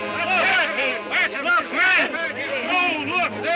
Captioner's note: men shouting